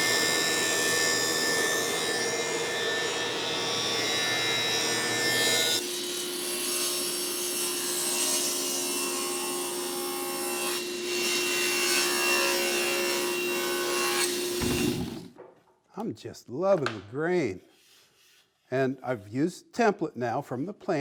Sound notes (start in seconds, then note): 0.2 electric sawing; 6.0 buzzing